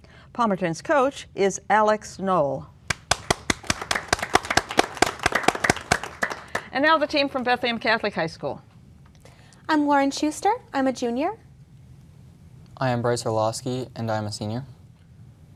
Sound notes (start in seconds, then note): 2.9 applause